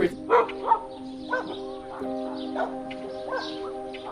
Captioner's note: dog barking